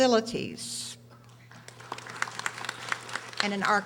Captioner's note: audience applauding